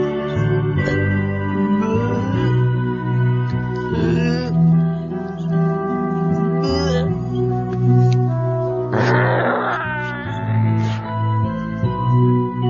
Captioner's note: retch